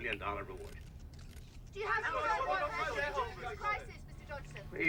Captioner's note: reporters clamoring